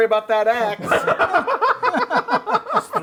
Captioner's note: laughter